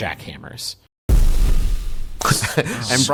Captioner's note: boom